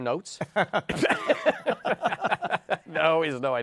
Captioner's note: laughter